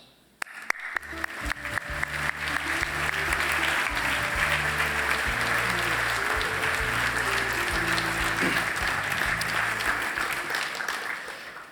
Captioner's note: applause